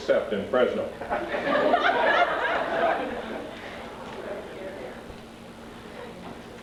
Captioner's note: laughter